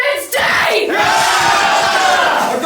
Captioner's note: ALL cheer